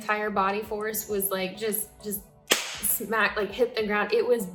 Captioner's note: hands slapping